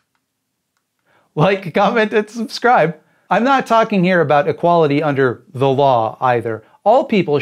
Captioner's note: laughing